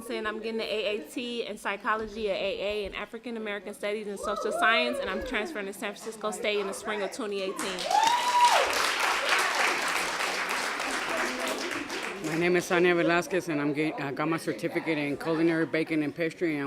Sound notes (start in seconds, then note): 7.6 applause